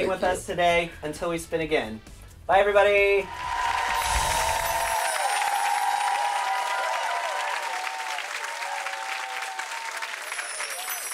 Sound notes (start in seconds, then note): 0.1 laughs; 3.2 cheering and clapping